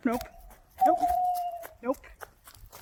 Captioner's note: owl hooting